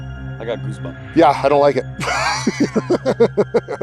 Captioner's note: laughs